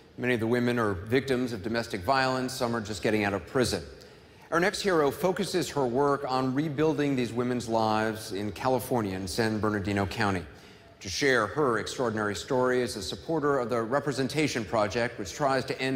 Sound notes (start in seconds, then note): none